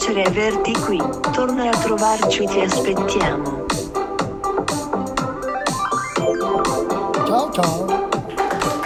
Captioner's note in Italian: Applauso